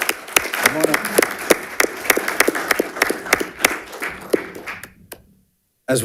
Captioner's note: audience applauding